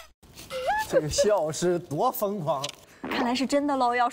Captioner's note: giggling